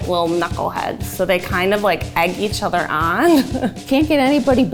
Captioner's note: laughs